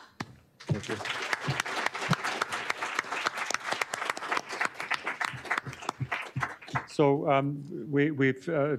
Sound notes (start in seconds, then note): 0.6 applause